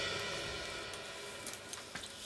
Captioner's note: none